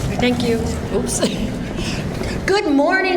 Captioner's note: giggles